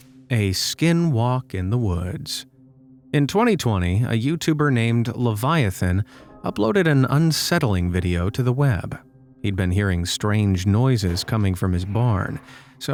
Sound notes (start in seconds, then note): none